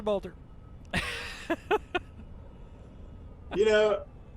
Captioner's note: laughter